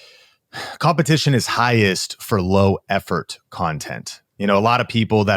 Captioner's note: sighs